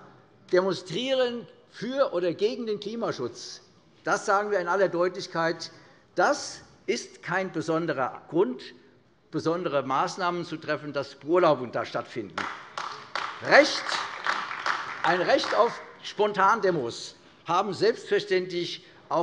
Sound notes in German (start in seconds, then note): 12.3 Beifall AfD